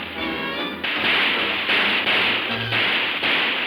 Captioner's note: explosions booming; pleasant music